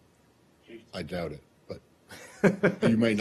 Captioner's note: laughter